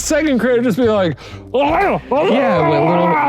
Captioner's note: groaning